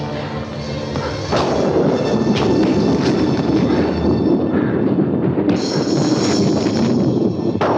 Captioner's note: blows thudding; thunder crashing